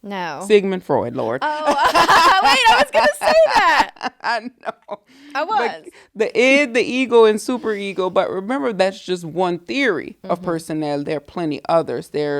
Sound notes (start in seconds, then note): 1.4 laughing together